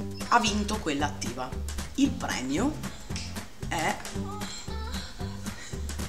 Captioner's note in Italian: sospiri in sottofondo